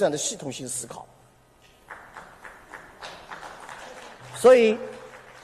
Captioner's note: applause